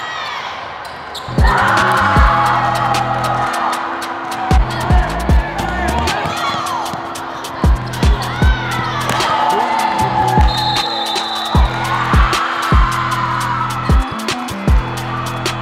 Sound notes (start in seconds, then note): 3.5 whistle